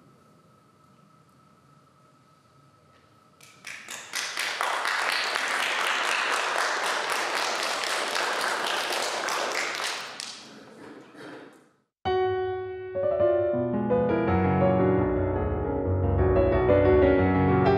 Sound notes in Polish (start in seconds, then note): 3.4 Aplauz